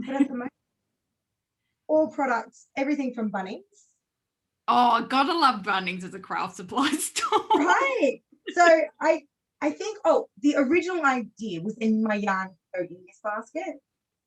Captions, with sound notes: But at the moment all products, everything from Bunnings. - Oh god, I love Bunnings as a craft supply store. (laughs) - Right, so I think the original idea within my yarn though is basket.